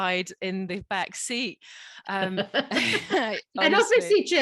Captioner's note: laughs